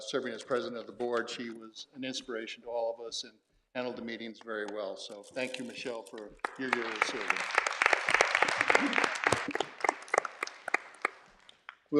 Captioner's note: clapping and cheering